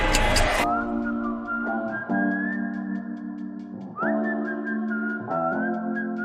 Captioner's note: clock ticking; artist whistling; gentle music